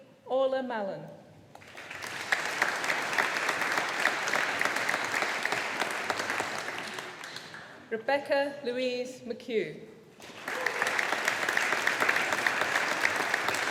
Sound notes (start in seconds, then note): 1.6 audience applauding; 10.2 audience applauding